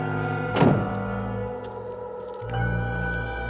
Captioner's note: door slams